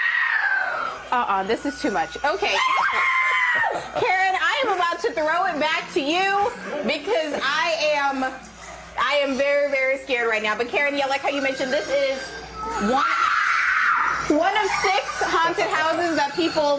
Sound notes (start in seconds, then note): 0.0 screams; 12.9 screams